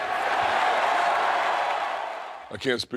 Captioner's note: crowd cheers